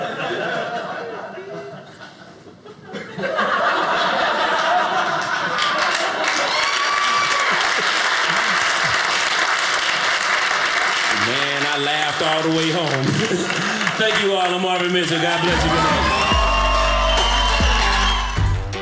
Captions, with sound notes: (audience laughing) (audience applauding) Man, I laughed all the way home. Thank you all, I'm Arvin Mitchell. God bless you. Good night. (audience cheering)